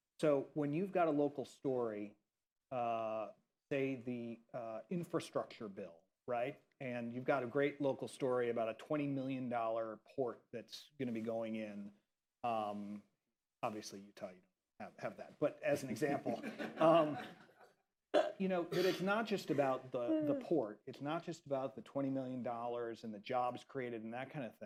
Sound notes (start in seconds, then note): 15.9 laughter